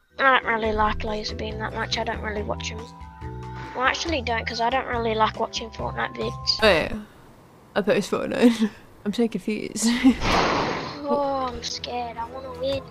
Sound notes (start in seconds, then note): 9.3 laughs